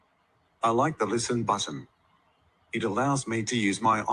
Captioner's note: male Australian Voice